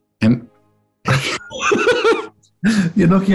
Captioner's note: laughter